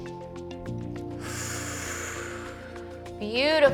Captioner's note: inhales; exhales